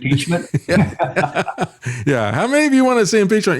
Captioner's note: laughing